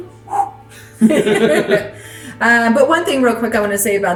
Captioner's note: both laughing